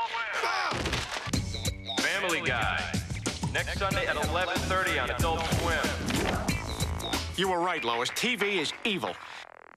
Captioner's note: Brian hollers